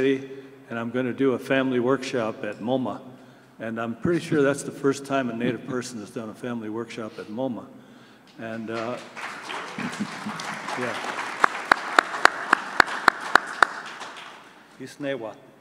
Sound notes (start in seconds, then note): 8.6 applause